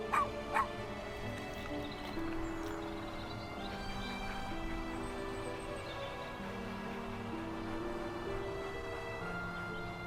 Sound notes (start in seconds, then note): 0.0 dogs barking; 2.6 gentle music; 4.7 birds chirping; 7.4 gentle music